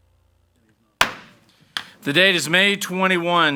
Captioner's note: gavel bangs